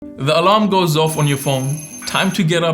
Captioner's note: alarm beeping